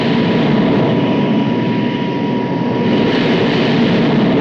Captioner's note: plane whirring